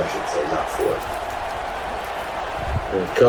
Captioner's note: crowd Noises